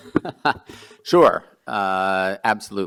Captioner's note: chortle